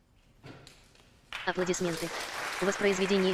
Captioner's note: applause